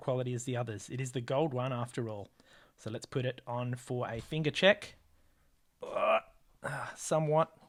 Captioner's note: groan